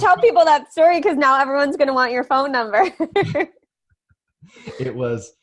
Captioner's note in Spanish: laughs